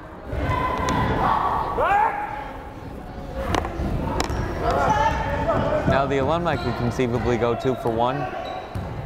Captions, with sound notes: (crowd chattering) Now the alumni can conceivably go two for one.